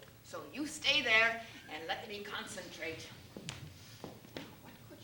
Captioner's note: none